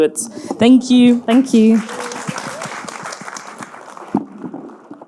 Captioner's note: audience clapping